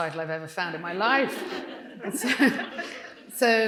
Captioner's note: audience laughing